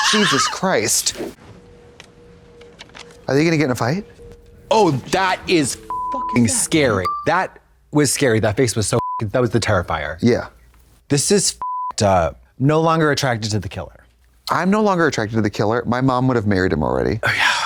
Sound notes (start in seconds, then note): 0.2 Katya rasps; 5.8 beep; 9.0 beep; 11.6 beep